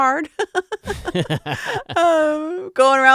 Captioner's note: laughing